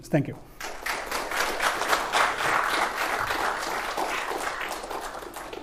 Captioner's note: applause